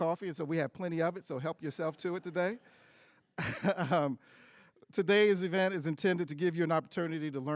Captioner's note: laughs